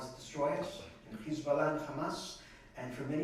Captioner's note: non-english